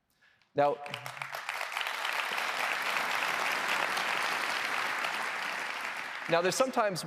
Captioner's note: applause